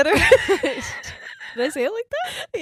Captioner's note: laughing